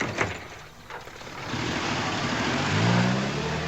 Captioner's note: engine revs